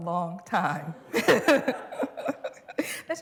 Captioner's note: laughter